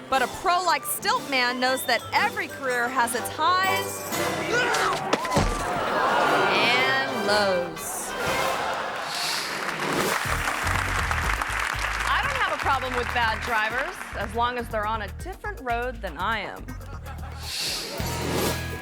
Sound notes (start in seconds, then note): 4.2 crowd gasping; 4.5 stilt man thudding; 8.4 audience laughing; 10.0 audience applauding; 16.8 audience laughing; 18.6 upbeat music